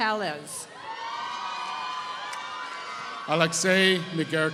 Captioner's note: applause